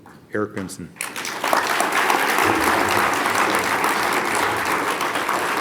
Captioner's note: audience applauds